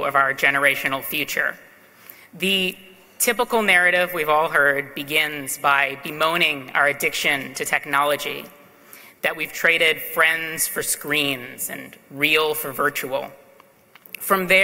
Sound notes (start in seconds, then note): none